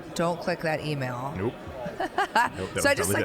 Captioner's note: chuckling